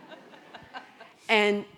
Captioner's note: audience laughing